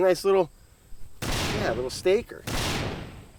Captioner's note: gunshots banging